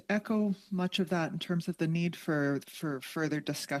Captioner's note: speaking French